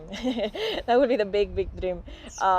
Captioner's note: laughter